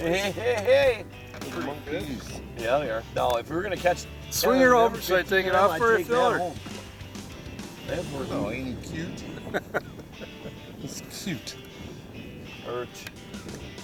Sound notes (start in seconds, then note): 4.3 voiceover; 9.2 laughs